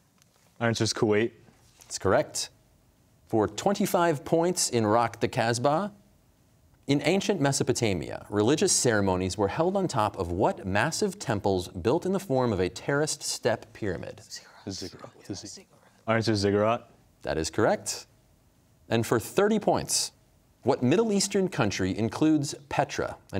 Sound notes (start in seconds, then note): 14.4 whispering